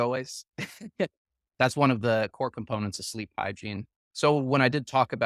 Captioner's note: laughs